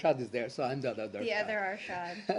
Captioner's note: laughter